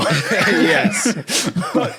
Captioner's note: group laughing